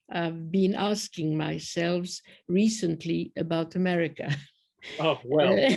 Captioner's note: laughter